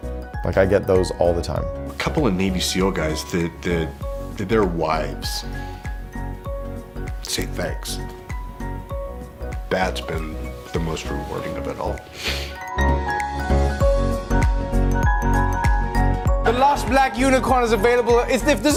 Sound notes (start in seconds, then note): 12.1 sniffles; 12.7 upbeat music